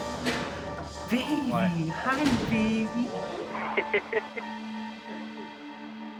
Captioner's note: laughs